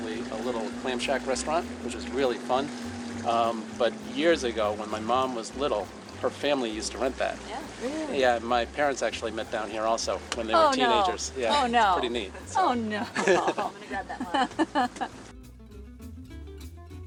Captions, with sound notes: a little Clam Shack restaurant, which was really fun. But years ago, when my mom was little, her family used to rent that. - Really? - Yeah, my parents actually met down here also when they were teenagers. - Oh, no, oh no, oh no. (laughs)